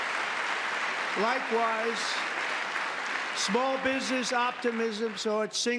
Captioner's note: applause